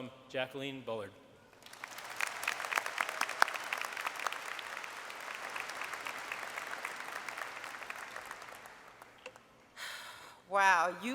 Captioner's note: applause